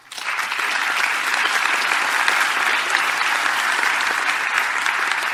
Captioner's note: audience clapping